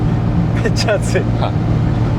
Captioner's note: laughs